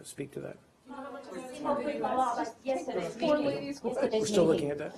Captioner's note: reporters chatter